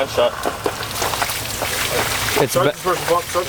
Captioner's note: water splashing